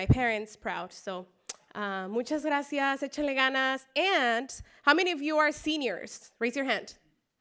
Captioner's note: spanish speech